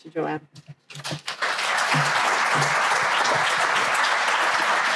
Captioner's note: crowd applauding